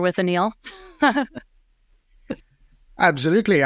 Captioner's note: chuckles